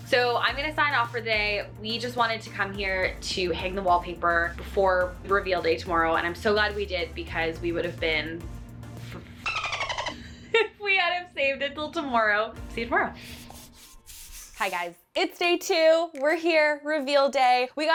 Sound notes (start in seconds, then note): 9.5 dolphin noises